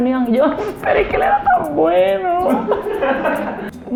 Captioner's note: sobs